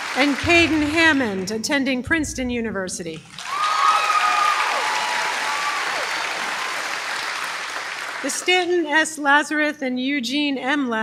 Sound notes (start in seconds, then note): 3.3 applause